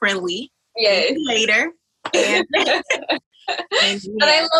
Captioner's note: laughs